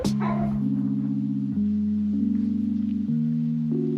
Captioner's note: ROON's crying